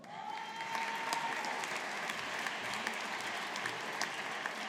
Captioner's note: audience applauding